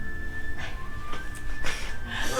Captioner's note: sigh